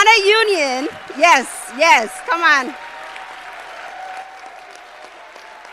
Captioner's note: applause